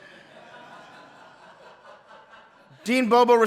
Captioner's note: audience laughing